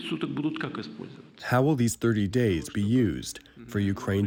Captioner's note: through translator